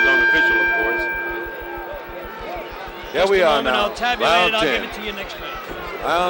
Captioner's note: bell sounds